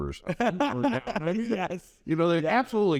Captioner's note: laughs